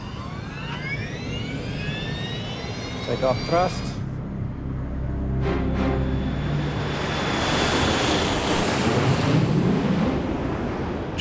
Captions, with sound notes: (jet engines accelerating) Take-off thrust. (ominous music) (turbines thrusting)